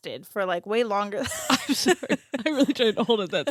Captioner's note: laughing